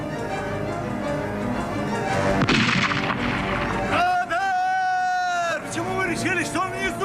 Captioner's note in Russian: крик